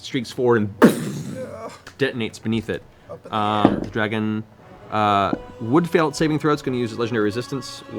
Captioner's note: explosion